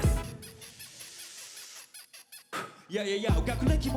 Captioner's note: scratch noise